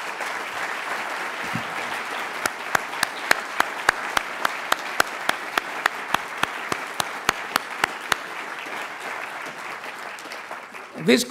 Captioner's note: audience applauds